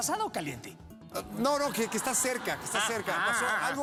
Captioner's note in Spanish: risas